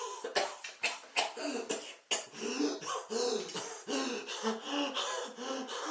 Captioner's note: Phil coughing; Phil wheezing